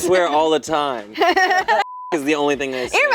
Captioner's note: laughing; beep